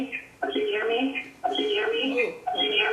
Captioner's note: echo of speaking occurs